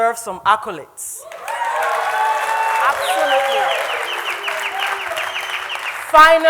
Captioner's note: crowd cheering